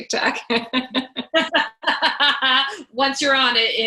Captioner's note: laugh